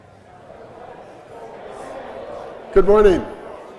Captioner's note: audience chattering